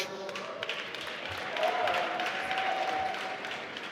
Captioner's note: applause